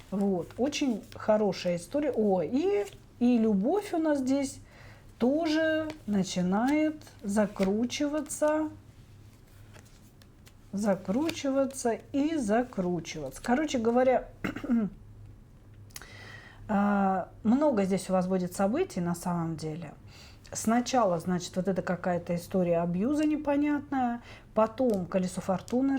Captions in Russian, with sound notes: Вот очень хорошая история. О, и любовь у нас здесь тоже начинает закручиваться, закручиваться и закручиваться. Короче говоря, [откашливается] а много здесь у вас будет событий, на самом деле. Сначала, значит, вот это какая-то история абьюза непонятная, потом колесо фортуны